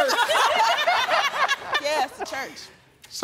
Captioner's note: laughter